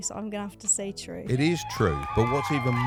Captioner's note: crowd cheering